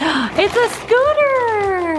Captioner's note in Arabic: لهيث